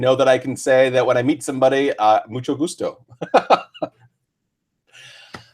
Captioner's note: laughs